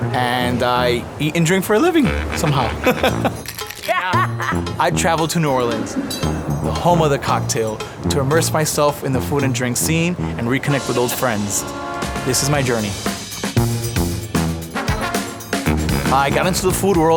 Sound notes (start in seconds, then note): 1.8 laughs; 3.4 shaker rattles; 3.8 laughs; 14.2 upbeat jazzy music